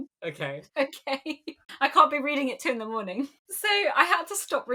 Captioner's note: laughing